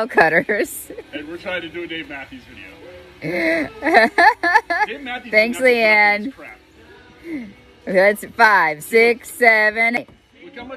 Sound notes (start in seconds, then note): 0.1 laughing; 3.0 laughing